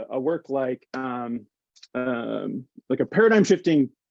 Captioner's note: hands clapping